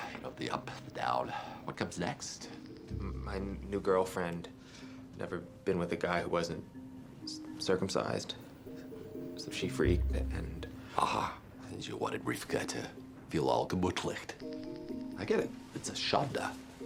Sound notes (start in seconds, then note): 13.4 speaking foreign language